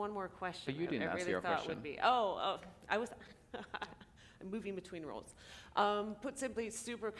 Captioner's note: chuckle